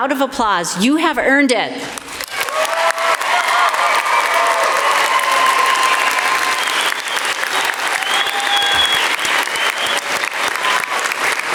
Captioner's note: crowd cheering